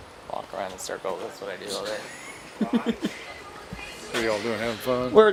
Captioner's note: laughs